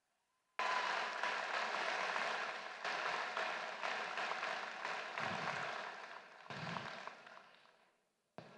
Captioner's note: applause